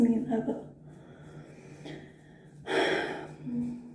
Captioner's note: sigh